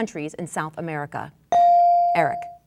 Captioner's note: bell dinging